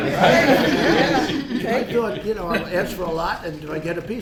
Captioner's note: laughter